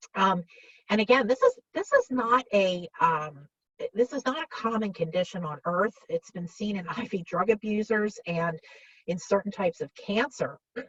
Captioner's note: clears throat